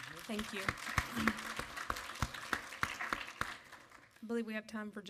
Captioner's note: audience applaud